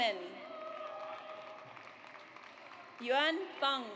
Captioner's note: audience applauds